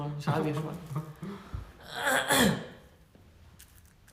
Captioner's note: ahem